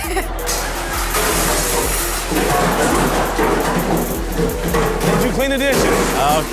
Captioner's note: dishes clattering and water splashing